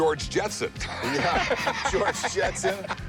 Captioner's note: laughs